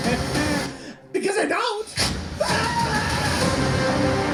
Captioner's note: ahhhh